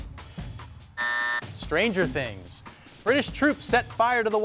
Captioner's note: buzzer beeps